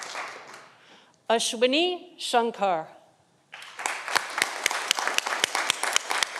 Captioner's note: audience applauding